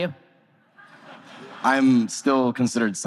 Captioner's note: audience laughter